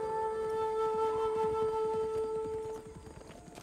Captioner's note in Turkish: Nal sesleri